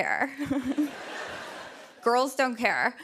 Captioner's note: laughter